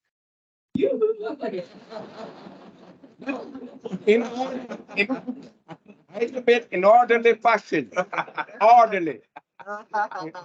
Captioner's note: audience member shouts "Yoohoo" followed by laughter; more laughter